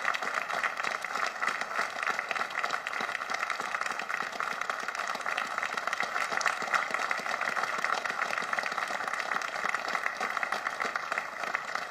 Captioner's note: applause